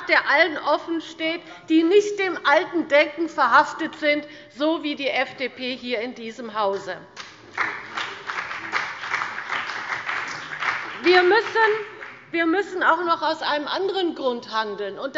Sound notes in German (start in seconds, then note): 7.1 Beifall bei dem BÜNDNIS 90/DIE GRÜNEN und Abgeordneten der CDU